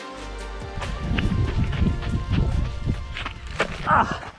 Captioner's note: footsteps